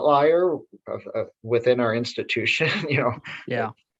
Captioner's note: chuckles